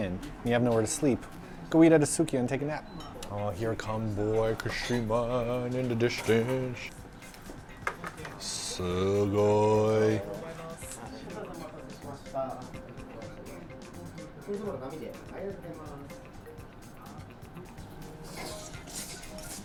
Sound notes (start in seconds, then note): 4.2 speaking Japanese; 11.2 people speaking Japanese